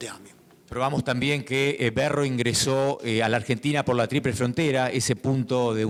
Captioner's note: speaking in foreign language